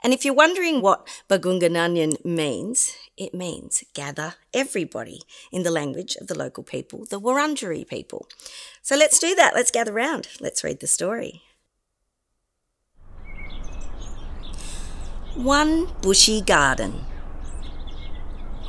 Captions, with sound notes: And if you're wondering what Bargoonga Nganjin means, it means "gather everybody" in the language of the local people, the Wurundjeri people. So let's do that, let's gather round, let's read the story. (birds chirping) One bushy garden.